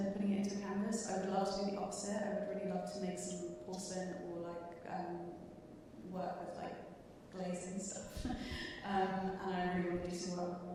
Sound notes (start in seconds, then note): 8.2 chuckling